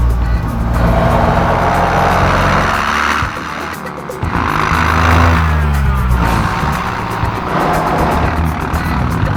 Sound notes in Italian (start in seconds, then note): 1.1 Rumore di un'altra auto; 5.2 Suoni armonici delle due auto